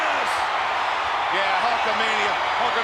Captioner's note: audience cheering loudly